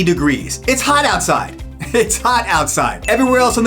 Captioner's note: laughing